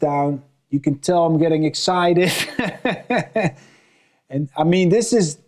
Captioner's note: laughs